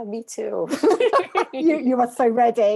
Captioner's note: laughs